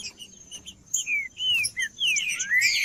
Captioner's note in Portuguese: trinca ferro cantando